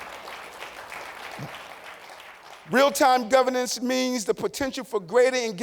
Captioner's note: applause